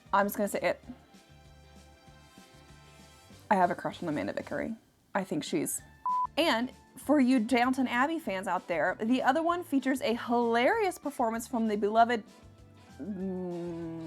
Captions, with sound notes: I'm just gonna say it. I have a crush on Amanda Vickery. I think she's. (beeps) And for you Downton Abbey fans out there, the other one features a hilarious performance from the beloved (hums)